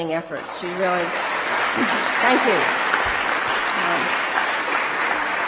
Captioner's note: applause